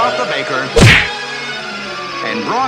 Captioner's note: smack!